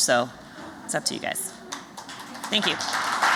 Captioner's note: applause